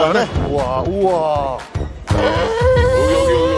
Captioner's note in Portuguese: com admiração